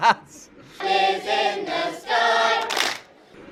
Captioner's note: clap